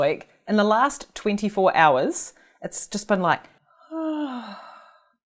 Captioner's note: sighs